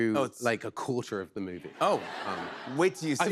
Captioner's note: laughter